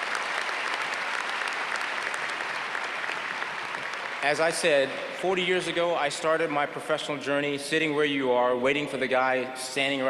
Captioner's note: applause